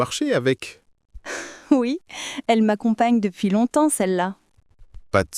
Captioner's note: laughs